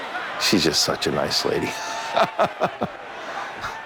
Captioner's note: laughs